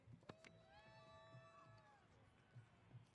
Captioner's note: cheers